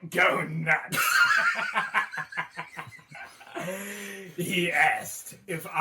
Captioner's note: both laughing maniacally